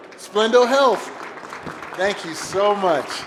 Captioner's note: applause